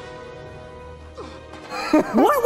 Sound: laughing

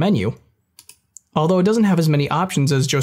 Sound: mouse clicks

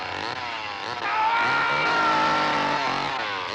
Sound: screams

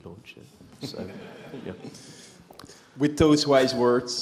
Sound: laughter

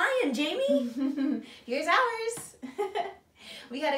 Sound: chuckles; chuckles

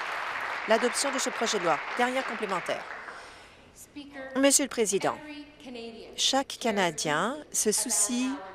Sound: applause

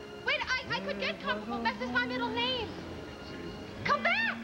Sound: normal voice

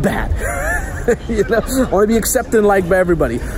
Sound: laughs

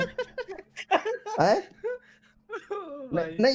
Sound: laughs

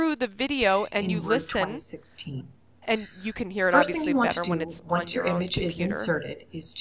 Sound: video audio playing

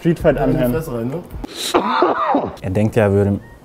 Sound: cough

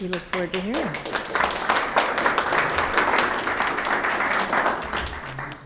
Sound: everyone applauding

